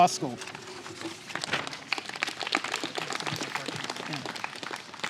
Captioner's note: applause